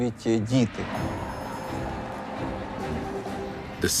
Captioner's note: chanting